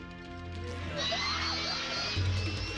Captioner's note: grunting